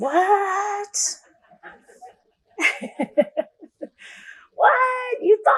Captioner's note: laughter